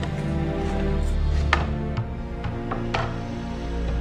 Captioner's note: loud creaking as wood is pried loose